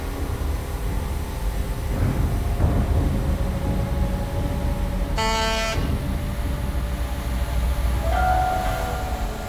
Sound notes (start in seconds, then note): 5.1 horn honks